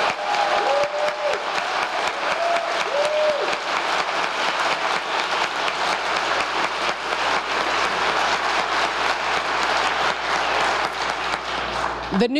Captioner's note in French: applause